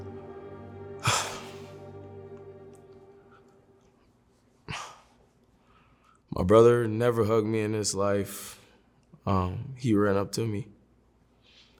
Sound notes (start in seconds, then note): 1.0 deep breath